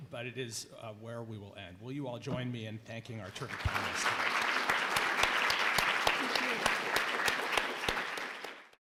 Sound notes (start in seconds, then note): 3.3 audience applauding